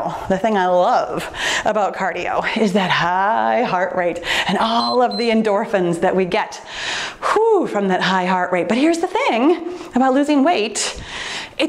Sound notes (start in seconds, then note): 4.6 timer beeps